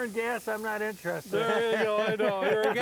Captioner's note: grill sizzling